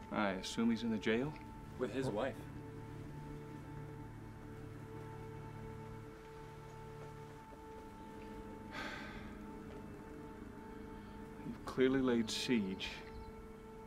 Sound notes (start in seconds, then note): 3.6 tense music; 8.7 Graham sighs